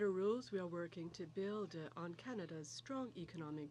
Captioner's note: speaking french